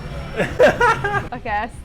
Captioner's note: laughs